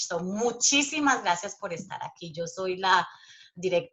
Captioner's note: speaking Spanish